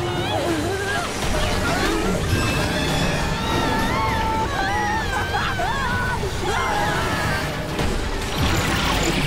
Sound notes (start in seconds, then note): 2.3 screaming; 5.9 screaming